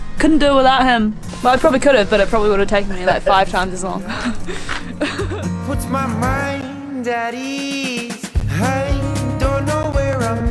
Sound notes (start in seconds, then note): 3.8 laughs